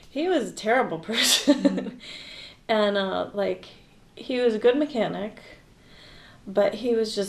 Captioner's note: chuckles